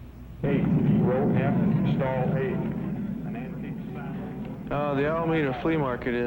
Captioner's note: man speaking over PA